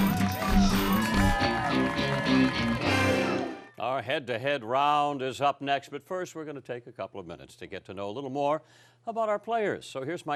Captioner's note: cheering and applause